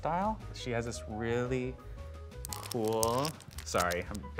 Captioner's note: crunching sound